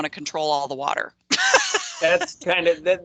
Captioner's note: laughing